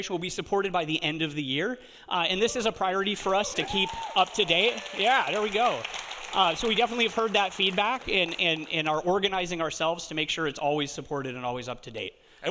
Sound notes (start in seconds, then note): 3.2 audience cheering; 3.4 audience applauding